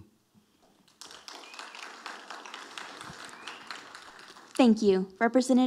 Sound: audience applauding

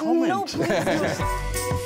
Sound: energetic music; laughing

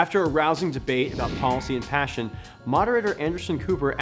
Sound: woosh

